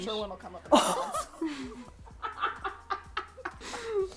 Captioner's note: all laugh